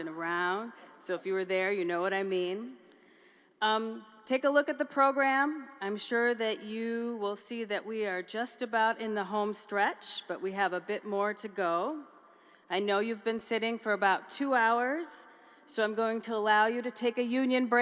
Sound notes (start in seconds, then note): none